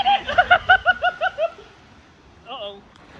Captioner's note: laughing